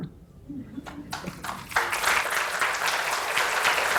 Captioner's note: applause